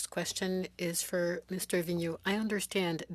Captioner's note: speaking French